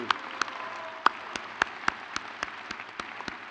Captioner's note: crowd cheers